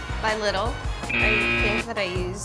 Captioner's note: buzzer beeping